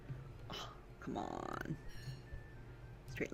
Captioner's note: gasp